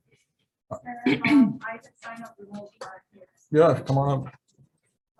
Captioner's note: woman clearing throat; woman speaking in the background